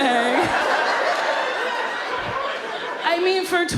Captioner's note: audience laughs